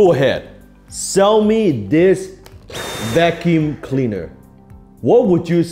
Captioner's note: vacuum whirs